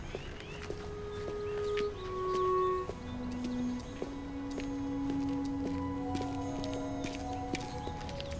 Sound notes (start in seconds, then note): 0.0 birds chirping; 0.0 light music